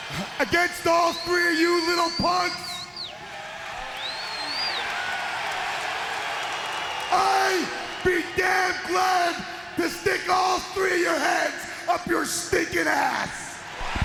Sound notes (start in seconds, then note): 0.1 chuckles; 3.5 crowd claps and cheers; 8.5 crowd cheering; 13.7 crowd cheering